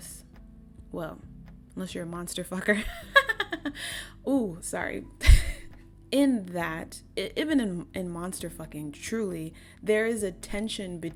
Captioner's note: heinous cackle